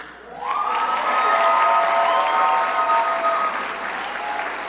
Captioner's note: crowd applauding